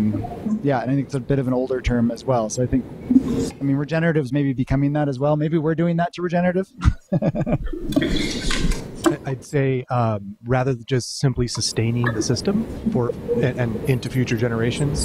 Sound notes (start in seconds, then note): 6.8 laughter